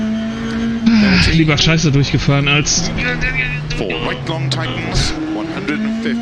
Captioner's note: sighs